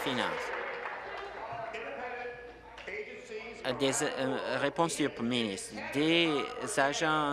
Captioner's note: applause